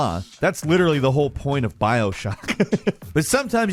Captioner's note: laughs